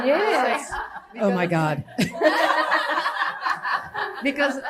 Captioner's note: laughter; laughter